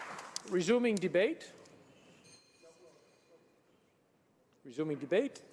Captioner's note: some Applause